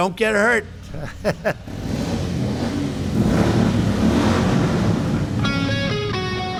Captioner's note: laughs